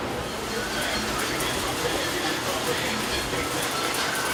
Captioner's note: machinery whirring